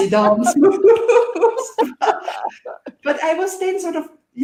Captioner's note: laughing